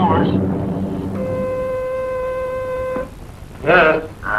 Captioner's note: intercom buzzing